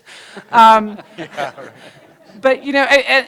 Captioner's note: laughter